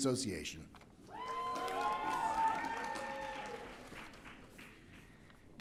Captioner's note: audience cheering